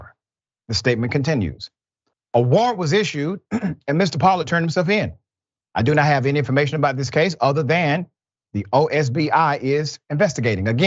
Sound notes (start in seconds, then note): 3.4 cough